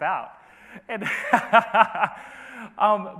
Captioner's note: laughs